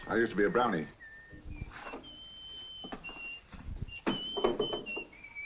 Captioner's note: boy whistling